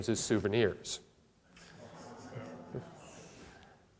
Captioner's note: audience laughter